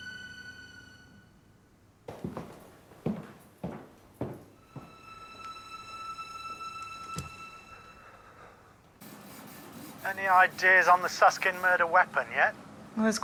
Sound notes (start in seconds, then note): 2.0 footsteps recede